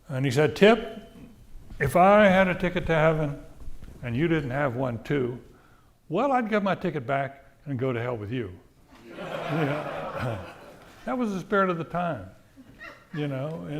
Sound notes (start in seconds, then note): 9.0 audience laughing